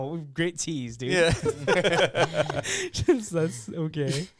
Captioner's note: laughing